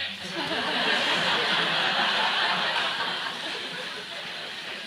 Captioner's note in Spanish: Risas